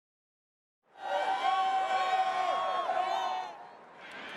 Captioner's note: cheering